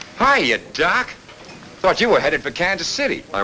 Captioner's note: none